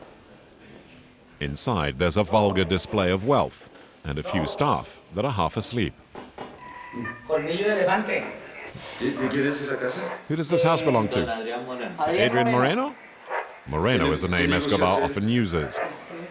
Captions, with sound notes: Inside, there's a vulgar display of wealth and a few staff that are half asleep. [Spanish spoken audio] Who does this house belong to? Adrian Moreno? Moreno is a name Escobar often uses.